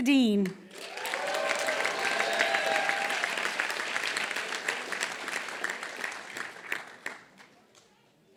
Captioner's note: applause